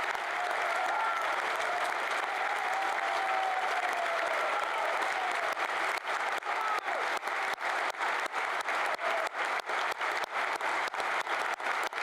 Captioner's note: applause